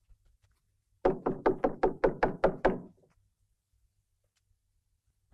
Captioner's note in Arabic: يطرق